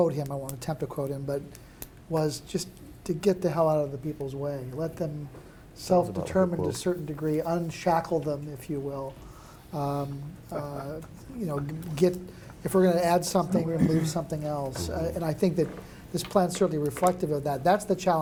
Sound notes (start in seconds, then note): 10.1 laughing